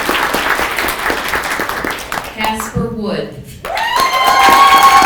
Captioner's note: people clapping